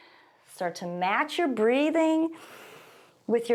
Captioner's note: exhales; inhales